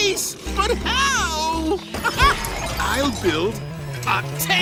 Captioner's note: laughs